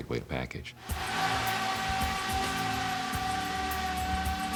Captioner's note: aerobot whirring